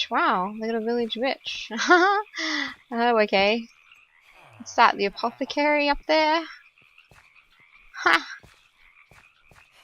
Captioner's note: laughs